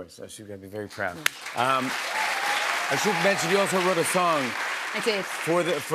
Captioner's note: cheers and applause